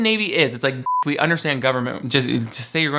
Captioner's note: beep